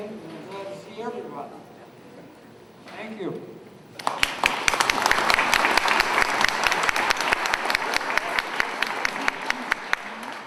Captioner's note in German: Beifall